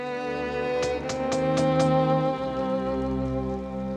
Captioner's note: knocking